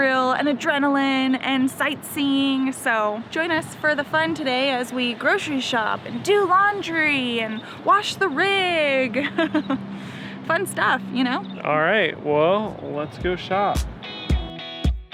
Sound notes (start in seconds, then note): 9.2 laughs